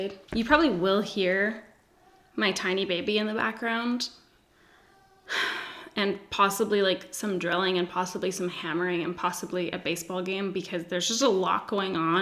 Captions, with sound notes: You probably will hear my tiny baby in the background. (sighs) And possibly like some drilling, and possibly some hammering, and possibly a baseball game because there's just a lot going on,